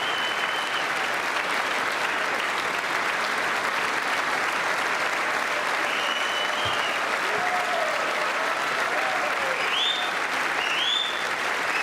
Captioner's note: applause